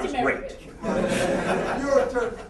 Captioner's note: laughter